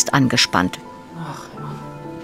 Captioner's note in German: Seufzen